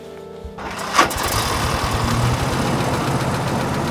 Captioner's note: engine revs